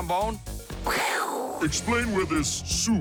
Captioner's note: both imitate explosion